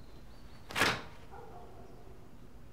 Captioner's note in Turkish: Kapı açıldı